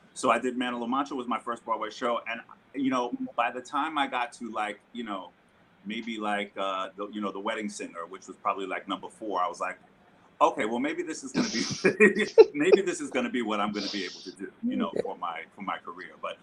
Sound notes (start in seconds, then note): 11.3 laughing